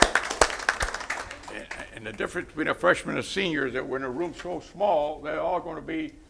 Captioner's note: applause